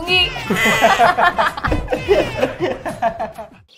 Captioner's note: Laughing